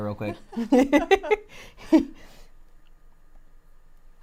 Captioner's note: laughs